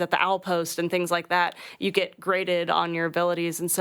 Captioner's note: none